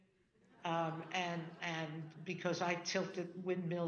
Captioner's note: audience laughing